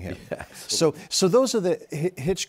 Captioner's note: chuckles